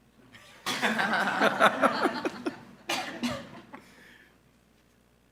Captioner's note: board and audience laughing